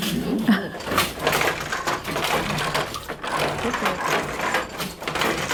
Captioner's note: crackling